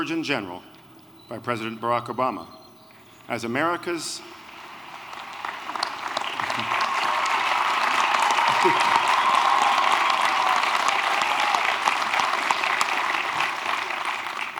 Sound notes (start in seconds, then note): 3.8 applause